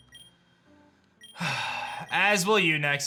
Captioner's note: sighs